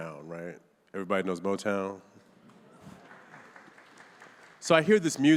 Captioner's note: audience applauding